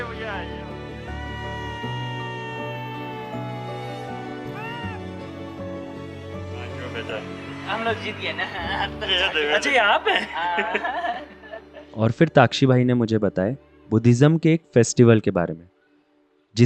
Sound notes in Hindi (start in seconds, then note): 11.1 हंसी